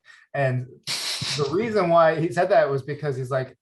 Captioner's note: laughs